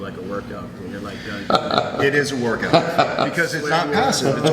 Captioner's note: laughs